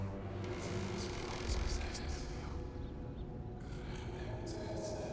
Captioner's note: whispering